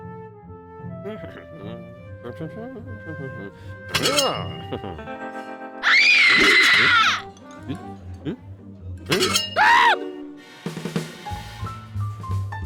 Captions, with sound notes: (humming) AH. HA HA. (screams) HMM? HMM? HMM? HMM? AH!